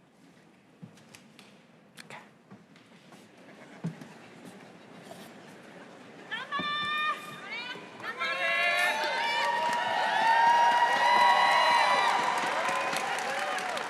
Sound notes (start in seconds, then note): 0.5 applause